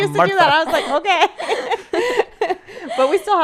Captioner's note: laughing